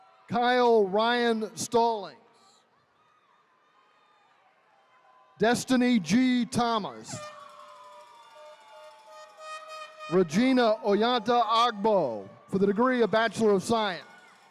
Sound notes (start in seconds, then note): 0.0 attendees cheering; 2.4 attendees cheering; 7.2 horn blaring